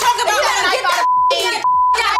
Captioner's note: beep